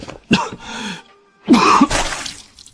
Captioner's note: cough